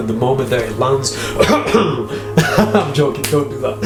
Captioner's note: coughing; laughing